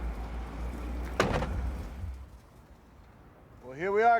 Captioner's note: door banging